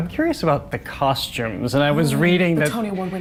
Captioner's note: dramatically